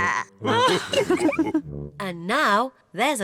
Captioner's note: growls; all laugh